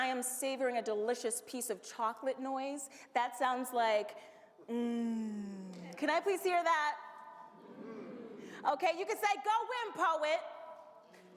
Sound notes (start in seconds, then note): 4.9 hums; 8.1 audience hums